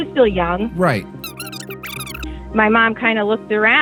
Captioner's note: high-pitched, indistinct chatter